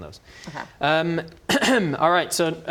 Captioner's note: ahem